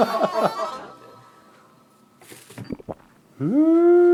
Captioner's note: gulp